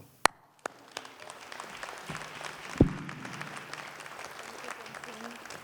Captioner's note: applause